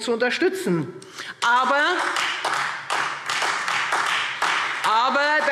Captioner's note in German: Beifall Freie Demokraten und vereinzelt SPD